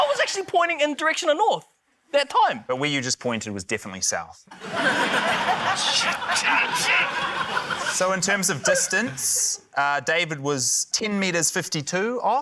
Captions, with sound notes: - I was actually pointing in the direction of north that time. - But where you just pointed was definitely south. (LAUGHTER) - Shit! (GRUNTS) - So, in terms of distance, David was 10.52m off.